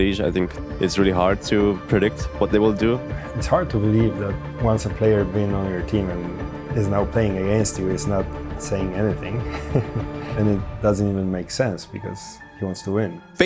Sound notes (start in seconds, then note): 8.6 chuckling